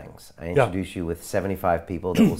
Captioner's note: coughs